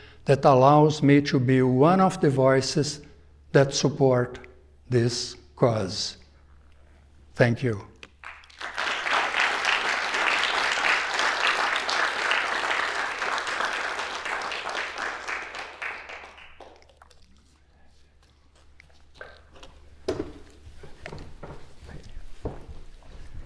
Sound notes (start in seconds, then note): 7.9 applause